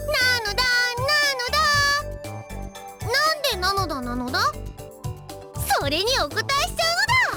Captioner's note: none